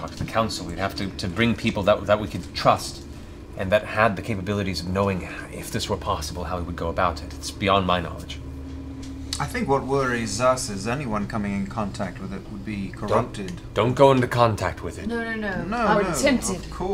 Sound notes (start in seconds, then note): none